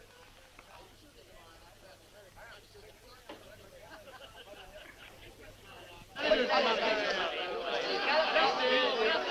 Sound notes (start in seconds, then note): 6.6 chattering